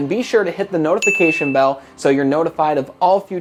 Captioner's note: bell dings